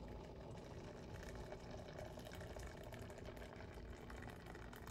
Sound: coffee drips

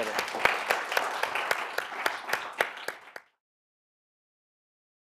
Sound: audience clapping

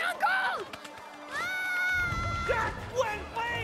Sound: yelling

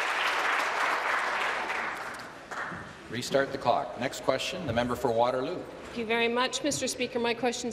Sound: applause

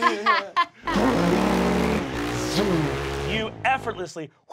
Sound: Fig laughs; motorcycle revs

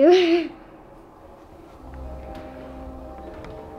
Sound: laughs

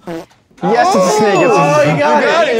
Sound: bell dings

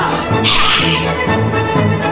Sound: goofy mephisto noises

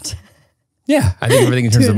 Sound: laughs

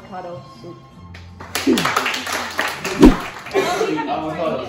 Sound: applause

